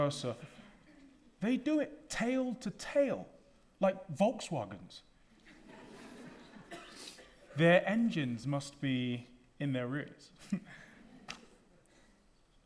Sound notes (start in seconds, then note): 5.4 audience laughing; 10.4 chuckling